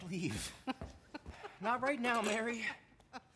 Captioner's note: laughing